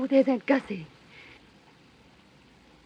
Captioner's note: gasps